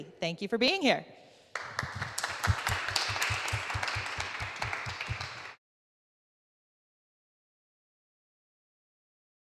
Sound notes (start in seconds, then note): 1.5 audience clapping